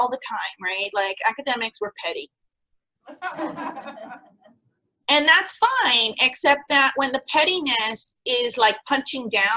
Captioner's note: laughter